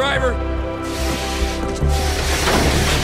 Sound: hissing; clanging

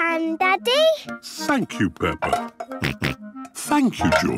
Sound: snorts

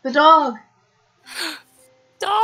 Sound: gasp!

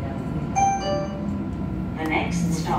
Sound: two Tone Chime

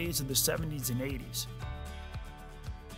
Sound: none

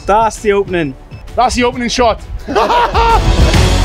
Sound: laughs

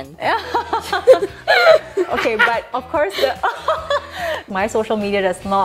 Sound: laughter

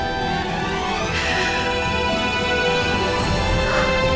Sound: crying

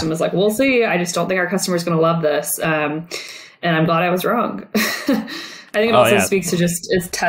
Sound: laughs

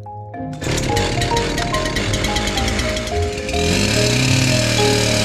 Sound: chainsaw engine revs

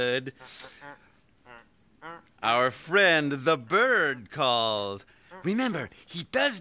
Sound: squawking

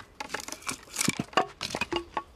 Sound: wood crunches

